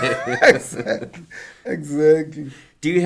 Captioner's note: laughing